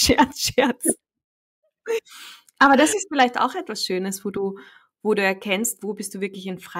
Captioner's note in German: lachen